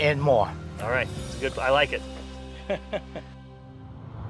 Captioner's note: laugh